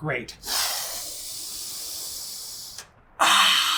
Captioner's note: aggressive inhale